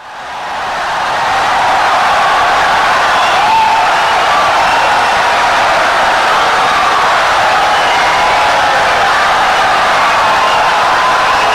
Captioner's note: wild applause and cheering for 17 seconds